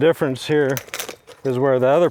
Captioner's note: chain clinking